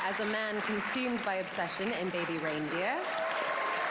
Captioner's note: applause